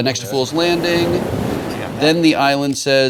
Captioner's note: waves crashing